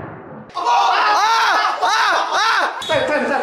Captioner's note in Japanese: 叫び